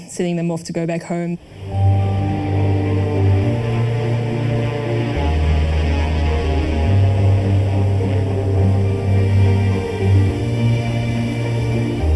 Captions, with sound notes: sending them off to go back home. (uplifting music) (engine buzzing)